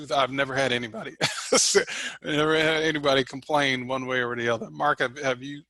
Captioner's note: laughs